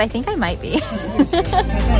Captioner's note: laughing